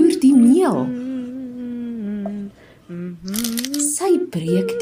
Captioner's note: Aunt Annie hums